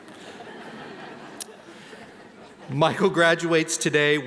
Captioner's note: laughing